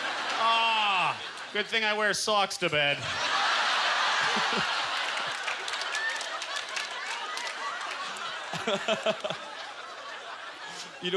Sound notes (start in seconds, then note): 2.6 audience laughter; 4.2 applause; 7.0 laughing